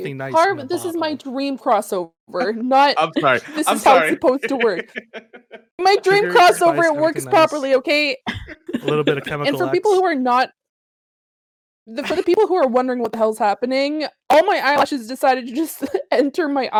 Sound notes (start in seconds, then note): 3.0 laughs